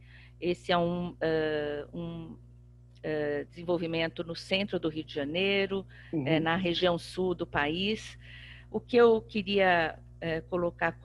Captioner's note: speaking portuguese